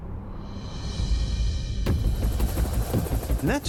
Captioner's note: helicopter whirring